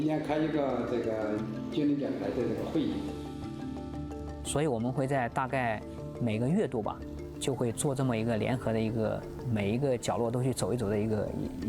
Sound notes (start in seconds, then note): 2.7 speaking chinese